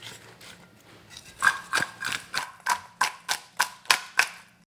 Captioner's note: clattering